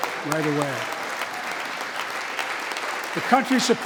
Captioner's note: applause